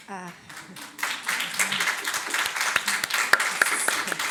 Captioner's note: audience applauds